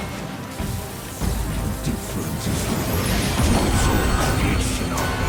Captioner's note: electricity crackling